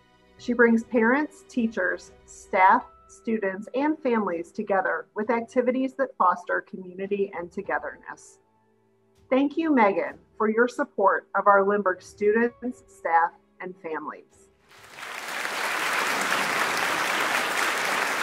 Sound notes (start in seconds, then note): 14.7 audience clapping